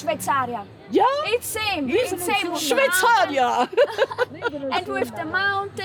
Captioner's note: laughing